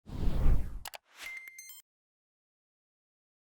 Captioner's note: air whooshing